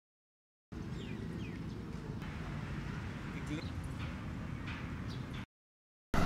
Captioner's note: city sounds near a park